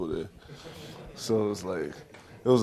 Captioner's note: audience chuckles